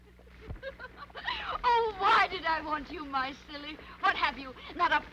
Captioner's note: laughing